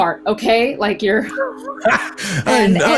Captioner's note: laughs